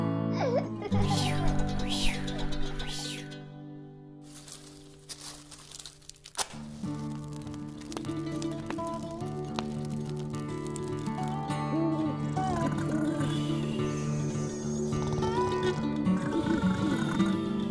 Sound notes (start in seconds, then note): 0.0 sound of child laughing; 1.1 sound of kite blowing in the wind; 4.3 sticks dropping; 5.7 match striking; 6.6 fire crackling; 12.4 owl Hooting, Snoring sounds